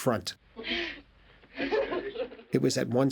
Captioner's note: laughing Continues